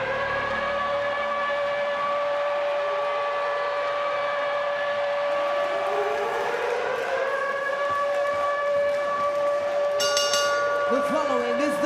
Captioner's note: siren; bell rings